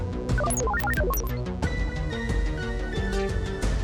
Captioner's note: computer beeps